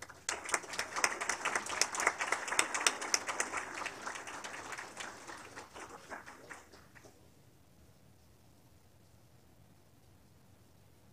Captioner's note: applause